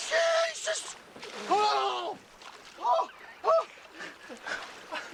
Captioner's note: Gimiendo